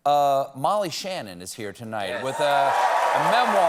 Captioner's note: applause